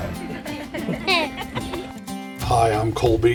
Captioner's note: giggles